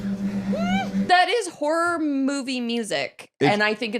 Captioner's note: squeaks